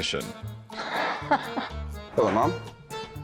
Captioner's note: laughter